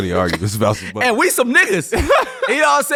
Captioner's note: laughing